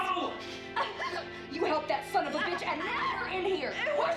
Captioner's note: Rowena gasping